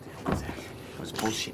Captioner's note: door thuds shut